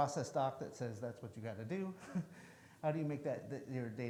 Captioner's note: chuckles